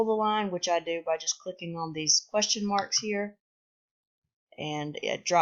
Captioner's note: click